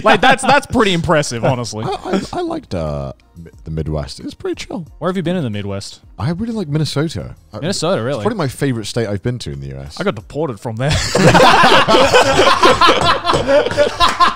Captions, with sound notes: Like that's pretty impressive, honestly. - I liked the Midwest, it was pretty chill. - Where have you been in the Midwest? - I've been to Minnesota. - Minnesota, really? - It's probably my favorite state I've been to in the U.S.. - I've got deported from there. (laughs)